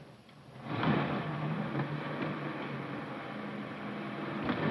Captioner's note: car engine revving